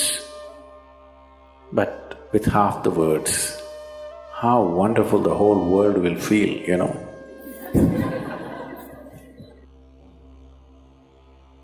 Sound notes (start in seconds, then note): 7.5 laughter